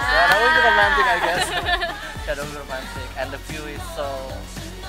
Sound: laughs

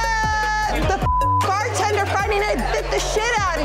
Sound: beeping

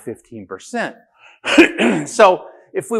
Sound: laughing

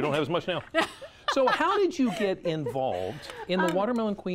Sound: laughter

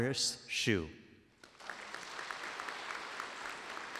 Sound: applause

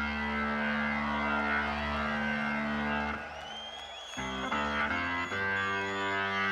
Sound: rock music; audience cheering; rock music

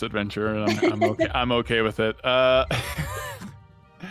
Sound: laughs; laughs

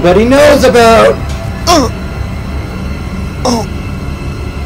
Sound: painful groans

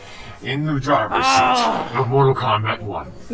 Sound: Kuai Liang lets out an exasperated moan

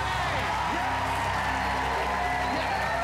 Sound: cheers and applause

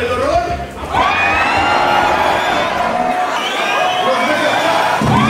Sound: audience howling and screaming

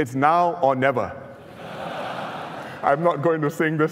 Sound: laughter

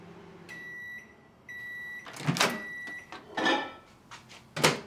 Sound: microwave beeping

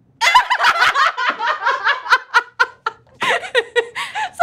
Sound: girls laughing

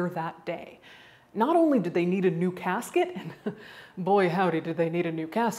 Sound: chuckles

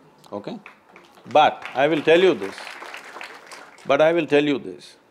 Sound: applause

